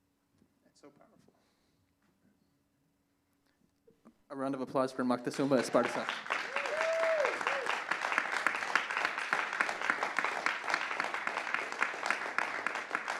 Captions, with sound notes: That's so powerful. A round of applause for Moctesuma Esparza. [applause]